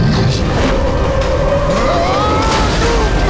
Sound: grunting; screaming; grunting

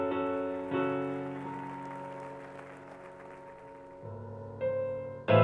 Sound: audience clapping; jarring piano music

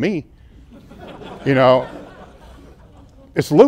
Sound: laughter

